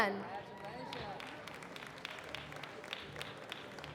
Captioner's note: applause